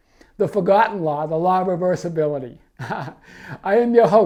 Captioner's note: laughing